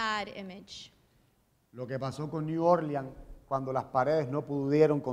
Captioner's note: speaking in Spanish